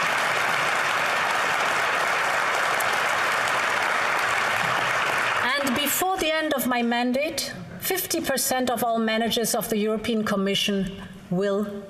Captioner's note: applause